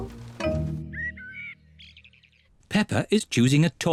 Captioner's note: birds chirping